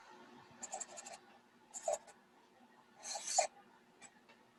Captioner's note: squeaking